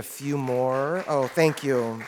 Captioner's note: audience applauds